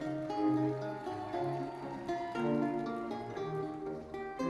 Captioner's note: audience cheering; audience applauding; lively classical music continues